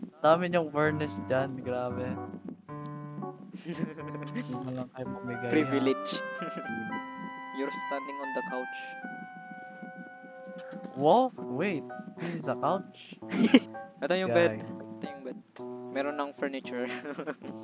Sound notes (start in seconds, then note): 3.6 giggles